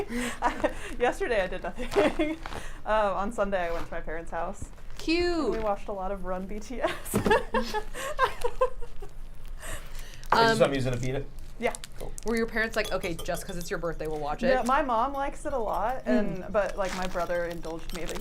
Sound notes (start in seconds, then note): 7.4 laughs